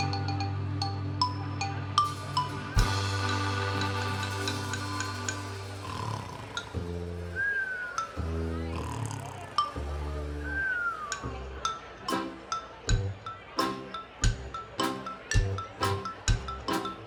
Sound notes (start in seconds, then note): 0.2 upbeat German music; 5.8 person snoring; 12.0 upbeat German music continues